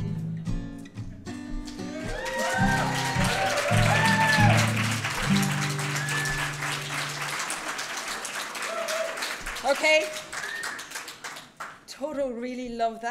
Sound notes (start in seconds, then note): 1.7 applause